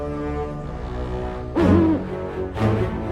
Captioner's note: owl hoots